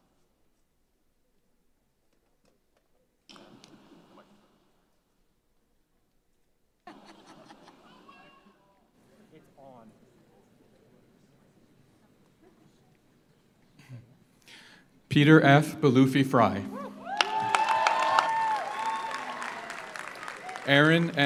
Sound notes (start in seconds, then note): 6.8 audience laughs; 16.6 audience cheers; 16.8 audience applauds